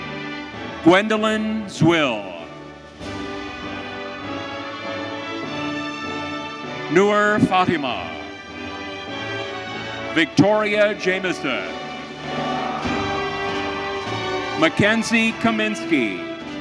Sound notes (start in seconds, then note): 11.4 audience cheering